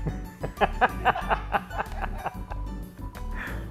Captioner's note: laughter